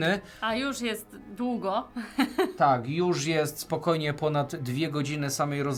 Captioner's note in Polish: śmiech